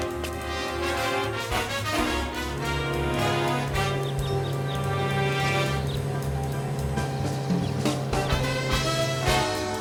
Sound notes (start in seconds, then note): 4.4 motorcycle humming